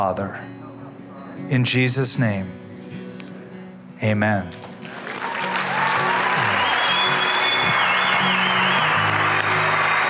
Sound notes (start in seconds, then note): 4.8 cheering and applause